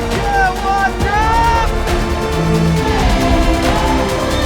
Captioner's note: whooping